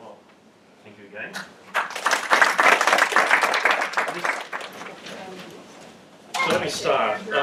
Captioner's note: applause